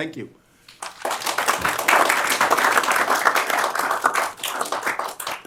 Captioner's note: applause